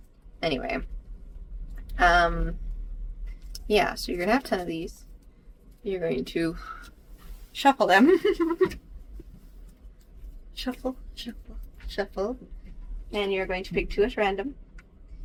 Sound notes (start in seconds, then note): 8.0 laughs